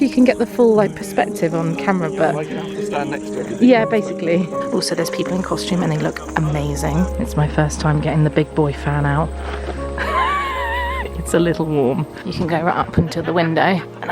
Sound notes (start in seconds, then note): 9.4 laughs